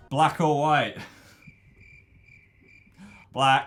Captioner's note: crickets chirping